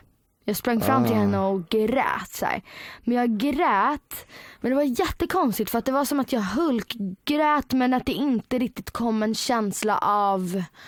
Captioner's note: cried